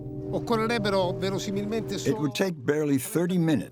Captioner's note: speaking in foreign language